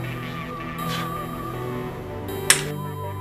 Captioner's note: blows; finger snaps